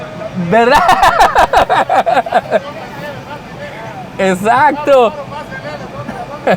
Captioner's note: laughs